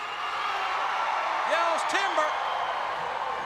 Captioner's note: crowd cheering